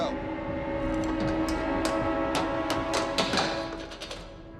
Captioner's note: can clattering